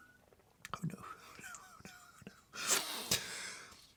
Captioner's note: exhales